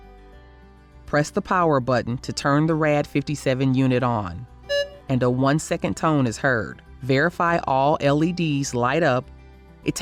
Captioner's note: audible BEEP